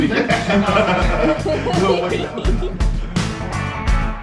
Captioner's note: laughing